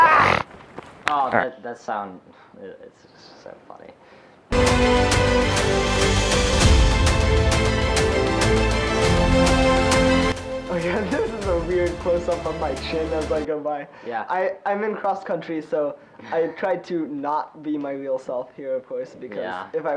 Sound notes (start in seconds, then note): 0.0 footage with cut-out scream-snort sound unmuted